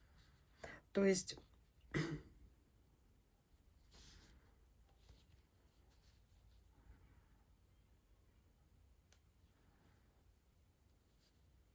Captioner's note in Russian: откашливается